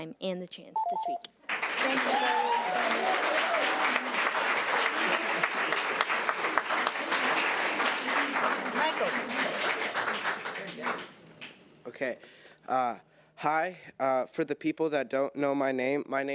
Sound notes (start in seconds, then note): 0.8 timer trills; 1.8 audience applauds; 1.8 audience cheers